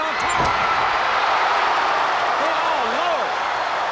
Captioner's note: crowd cheering